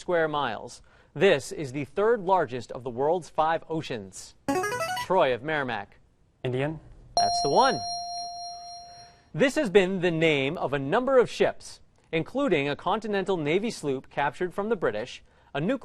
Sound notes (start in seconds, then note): 4.5 ringer; 7.2 ding